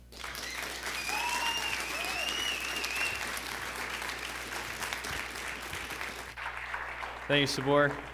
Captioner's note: applause